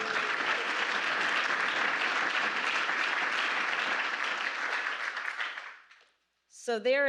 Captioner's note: applause